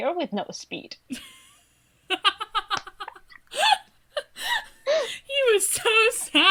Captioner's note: laughs